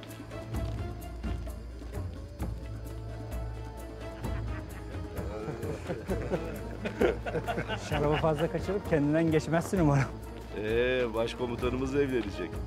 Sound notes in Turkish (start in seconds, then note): 5.8 Gülme sesleri